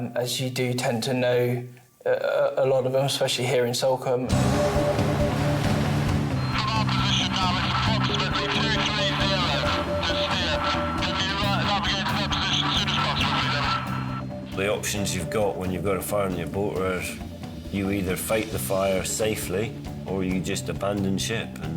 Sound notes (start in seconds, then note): 4.3 dramatic music; 6.5 radio